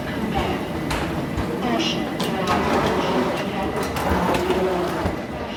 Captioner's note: announcer speaking softly